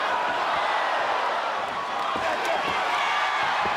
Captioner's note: audience cheers